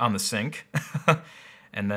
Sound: laughing

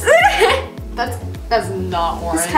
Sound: giggles

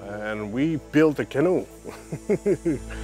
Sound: laughs

